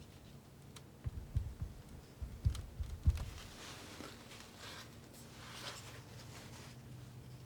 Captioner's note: scratching